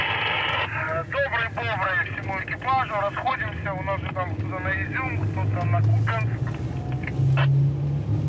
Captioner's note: radio